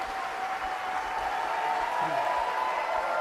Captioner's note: cheers and applause